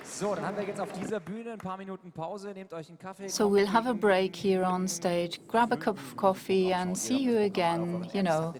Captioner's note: applause